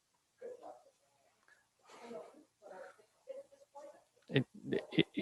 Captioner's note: council member faintly speaking